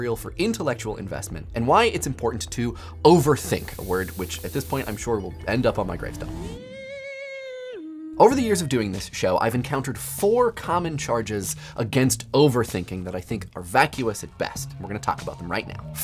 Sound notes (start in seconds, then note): 5.0 spooky sound